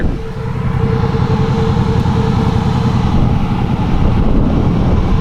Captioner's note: ATV engine roaring